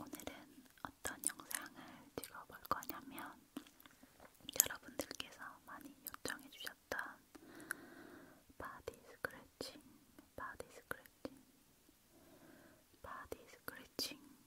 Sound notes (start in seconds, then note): 7.1 + face sounds, hand sounds